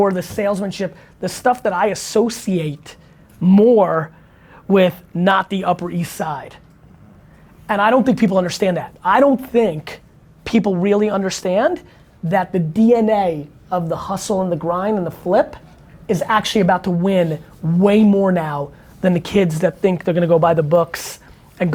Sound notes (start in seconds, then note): none